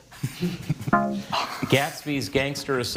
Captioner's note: bell blares